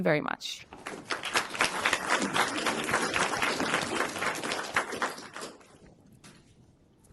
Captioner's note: applause